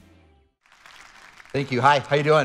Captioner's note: audience applauding